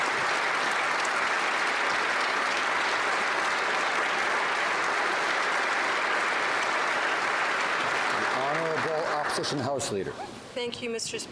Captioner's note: applause